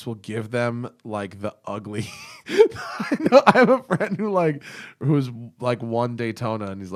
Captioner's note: laughter